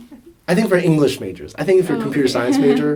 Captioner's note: laughs